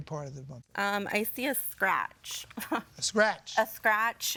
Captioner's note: chuckles